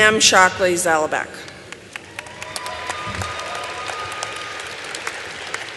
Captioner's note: applause